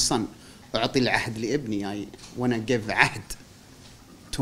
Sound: non-english speech

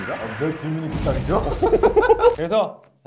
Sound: haha

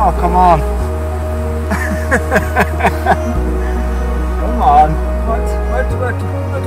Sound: laughter

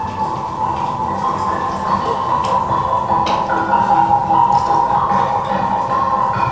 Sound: high pitched whirring rises in volume

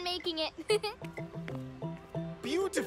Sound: chuckles

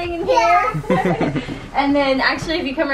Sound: laughter

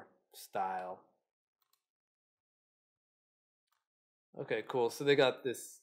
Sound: mouse clicking

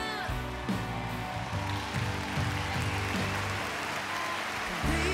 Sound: cheering

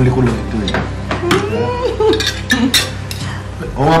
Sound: woman hums, giggles

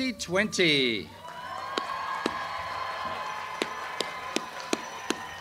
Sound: audience cheers and applauds

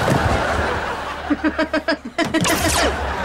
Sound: laughing

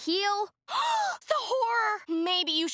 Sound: gasping

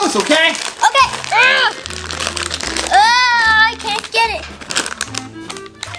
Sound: groaning

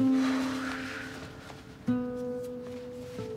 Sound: Sam sighs

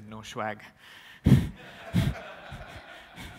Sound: laughter

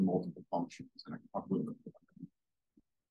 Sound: faintly speaking

